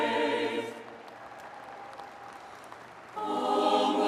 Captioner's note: audience applauding